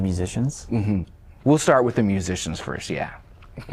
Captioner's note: laughter